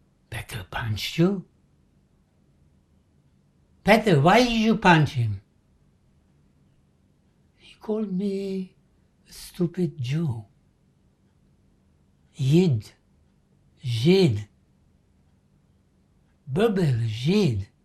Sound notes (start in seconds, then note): 12.2 non-english; 16.2 non-english